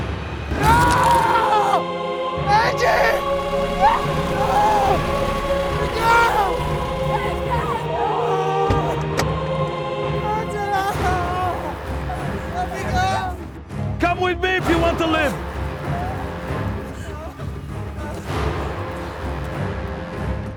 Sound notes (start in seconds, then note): 0.2 soft ominous music; 8.4 car door clicking; 10.2 sobbing; 16.6 dramatic orchestral music